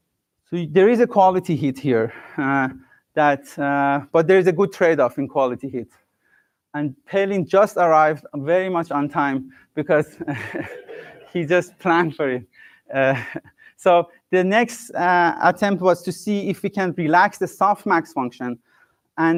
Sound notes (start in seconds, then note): 10.2 laughs